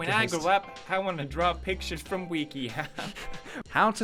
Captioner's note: giggles